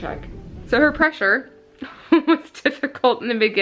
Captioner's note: laughing